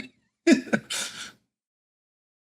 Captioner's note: laughs